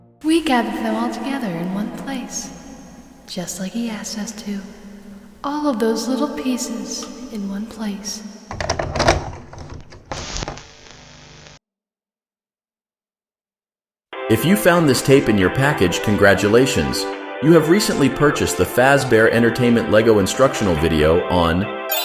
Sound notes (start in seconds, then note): 8.5 VHS Tape Inserted